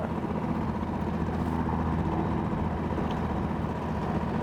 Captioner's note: motor droning